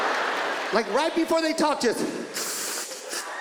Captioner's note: inhales loudly